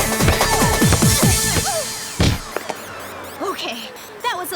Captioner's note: grunting